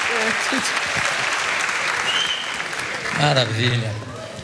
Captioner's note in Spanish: aplausos